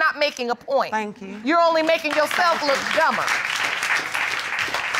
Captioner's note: audience applauding